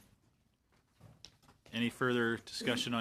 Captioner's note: laughter